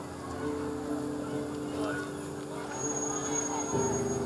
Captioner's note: crowd; muffled shouting